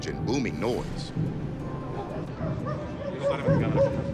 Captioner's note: rhythmic deep thumping; speaking Greek